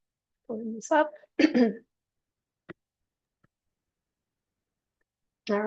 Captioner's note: clearing throat